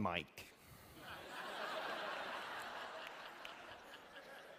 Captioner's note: laughter